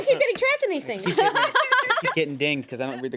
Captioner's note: woman laughs